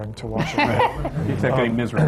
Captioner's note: laughter